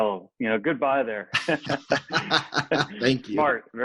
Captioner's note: laughter